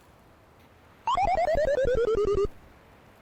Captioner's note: laughing